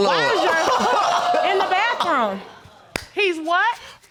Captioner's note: laughs